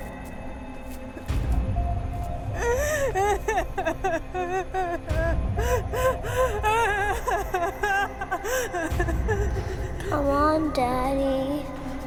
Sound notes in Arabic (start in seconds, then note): 2.5 إيما تبكي